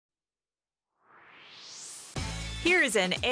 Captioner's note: swoosh